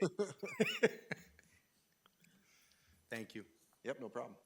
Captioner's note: laughing